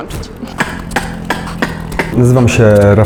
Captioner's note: beatbox